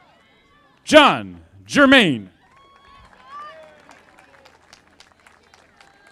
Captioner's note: audience applauding